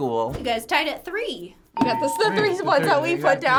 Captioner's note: bell rings